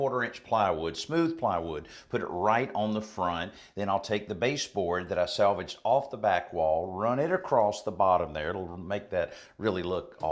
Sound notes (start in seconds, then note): none